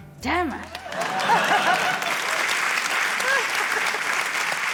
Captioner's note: applause